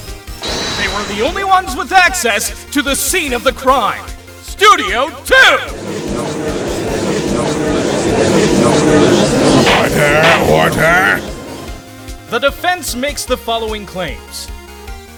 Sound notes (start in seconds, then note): 5.7 gallery chattering